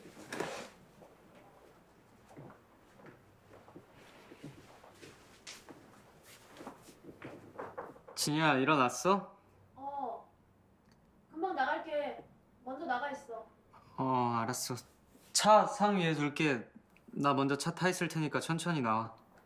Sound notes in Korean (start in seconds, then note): 2.8 지석 발소리